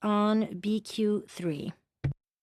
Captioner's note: speaking French